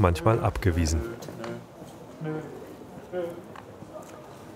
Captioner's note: mumbling